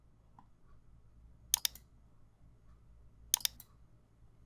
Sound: mouse clicks

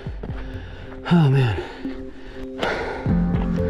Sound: panting

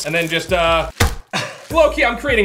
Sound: thumps

